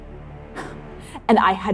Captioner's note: scoffing